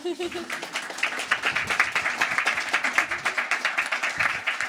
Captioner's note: chuckles; crowd applauding